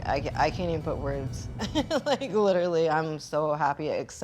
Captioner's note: laughing